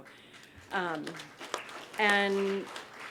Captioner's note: applause